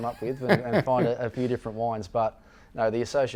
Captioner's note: laughing